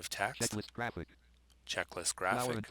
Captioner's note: synthesized speech